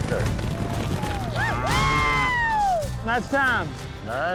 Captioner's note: cheering